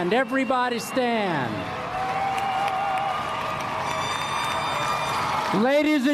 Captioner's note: applause